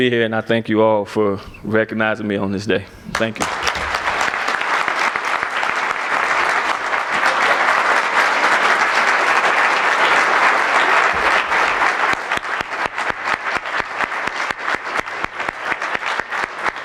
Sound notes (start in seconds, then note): 3.1 applause